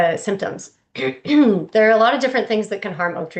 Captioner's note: clears throat